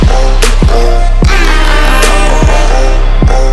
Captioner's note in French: klaxon à air comprimé